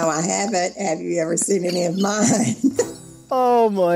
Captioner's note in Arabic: يضحك